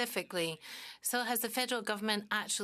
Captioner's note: speaking French